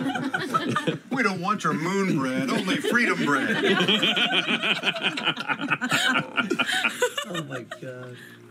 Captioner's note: laughter